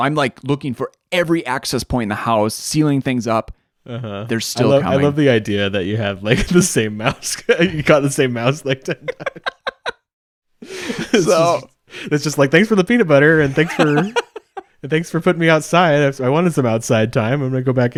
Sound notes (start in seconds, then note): 8.8 both laughing